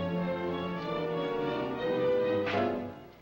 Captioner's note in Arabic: صفعة